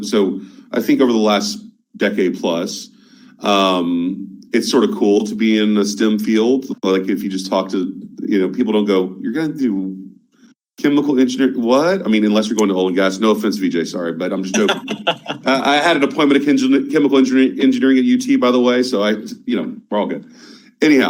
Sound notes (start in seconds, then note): 14.4 laughing